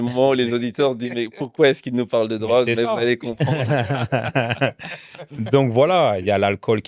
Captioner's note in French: rires